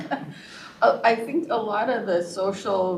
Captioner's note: laughter